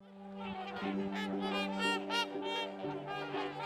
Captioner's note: geese quacking